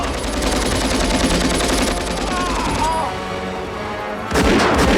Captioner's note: groaning